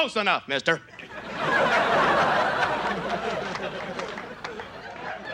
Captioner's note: audience laughs